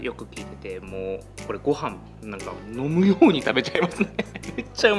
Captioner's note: laughs